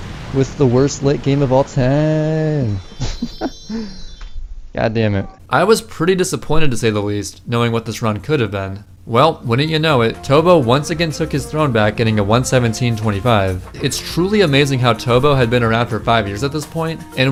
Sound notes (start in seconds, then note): 2.8 laughs